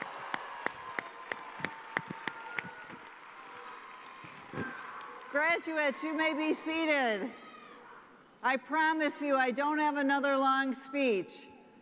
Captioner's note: cheers and applause